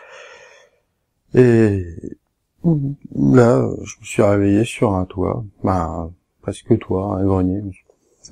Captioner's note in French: burp